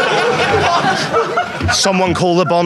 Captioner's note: Sidemen laugh; audience laughs